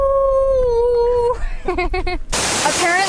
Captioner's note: laughs